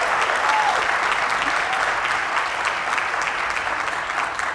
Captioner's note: applause; laugh; applause